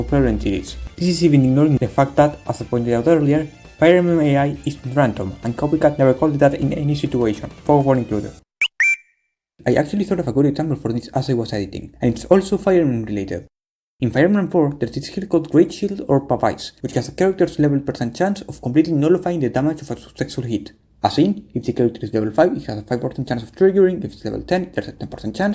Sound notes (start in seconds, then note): 8.6 whistle sound effect